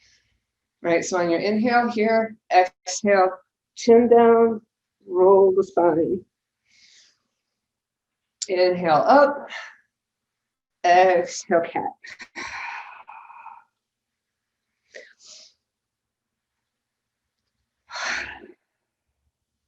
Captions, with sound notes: All right, so on your inhale here, exhale, chin down, roll this body. (inhales) Inhale up, Exhale Cat. (exhales) (inhales deeply and exhales sharply)